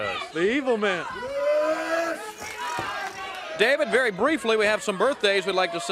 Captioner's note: crowd chatter